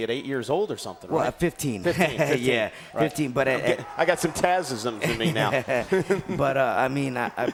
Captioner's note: laugh